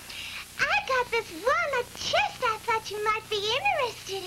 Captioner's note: in 'hollywood starlet' voice